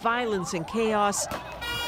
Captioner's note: sirens